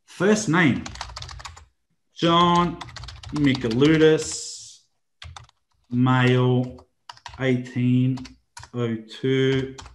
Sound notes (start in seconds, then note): 2.5 computer keyboard keys tapping